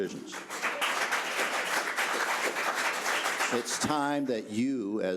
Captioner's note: audience applause